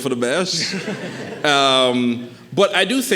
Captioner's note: audience chuckling